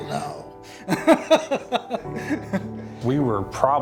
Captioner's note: laughing